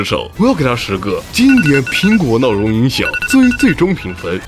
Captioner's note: classic Apple alarm clock sound effects